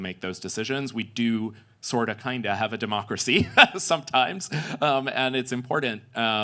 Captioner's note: laughs